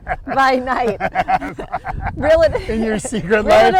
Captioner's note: laughing